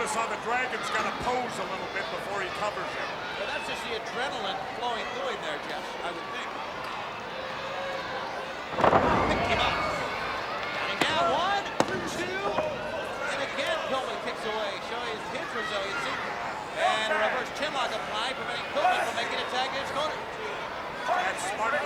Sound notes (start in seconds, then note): 8.7 body thudding; 12.5 hands thudding